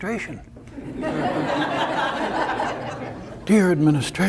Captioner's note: audience laughter